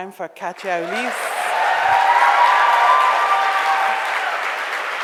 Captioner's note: audience cheers